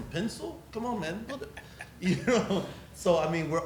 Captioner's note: laughs